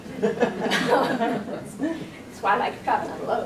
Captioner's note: audience laughing